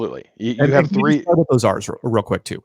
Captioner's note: both chattering